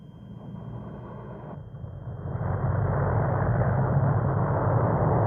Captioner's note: plane engines rumbling